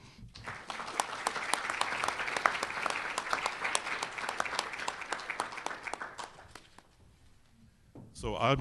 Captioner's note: applause